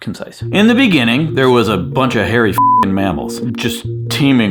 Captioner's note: beep